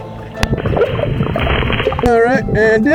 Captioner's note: water burbling